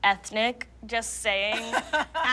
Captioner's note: laughs